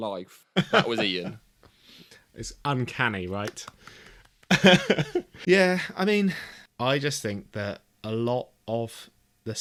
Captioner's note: laughs